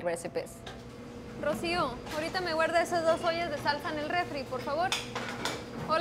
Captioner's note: speaking Spanish